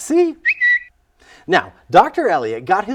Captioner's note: bird twittering